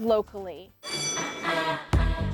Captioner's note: bell dinging